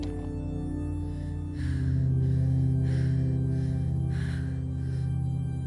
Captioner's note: Quinn breathes heavily